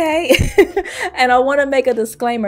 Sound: laughs

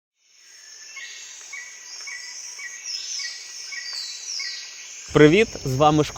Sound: спів пташок

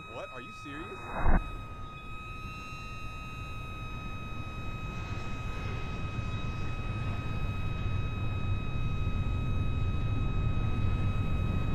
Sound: high Pitch squealing

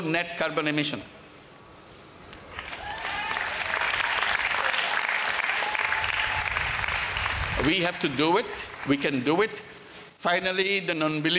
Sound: applause

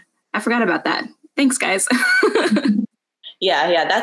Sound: laughs

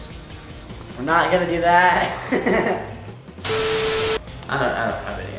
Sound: laughs

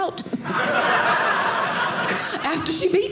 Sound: audience laughing

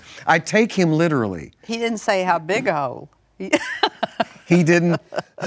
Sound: laughs

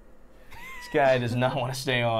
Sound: Safiya laughing

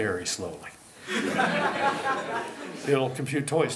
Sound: laughter

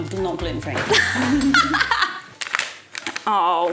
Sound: laughs; bag crinkles

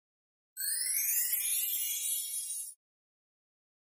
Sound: shimmering

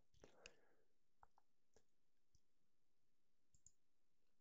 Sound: clicking

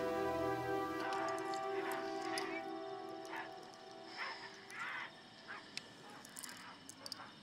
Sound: distant grunting

